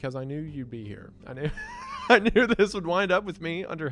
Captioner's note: laughs